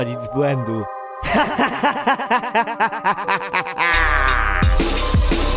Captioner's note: laughter